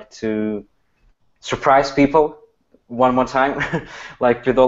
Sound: laughs

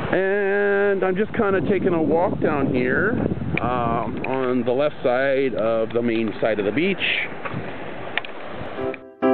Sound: water sounds

